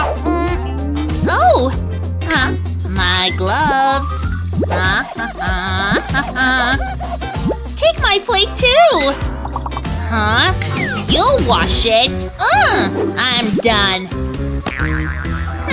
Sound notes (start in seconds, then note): 3.3 making irritated sounds; 4.7 groans